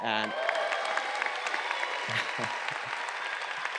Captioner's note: audience cheering